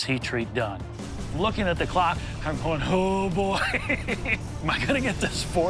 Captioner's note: laughs